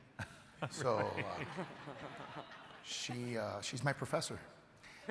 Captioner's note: crowd and panelists laughing